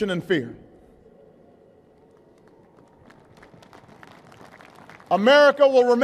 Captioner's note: applause